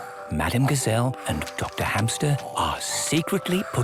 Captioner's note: whispering